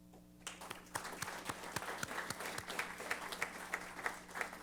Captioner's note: applause